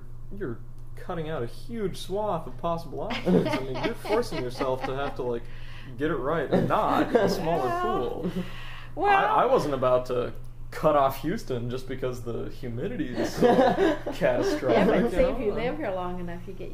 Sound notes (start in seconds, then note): 3.1 laugh; 13.1 laughs